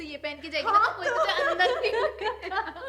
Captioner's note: laughter